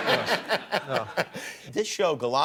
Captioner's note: laughter